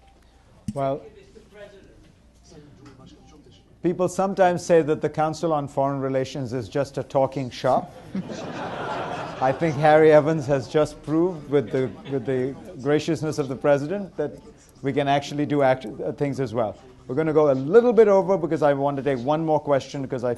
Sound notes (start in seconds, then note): 8.0 laughter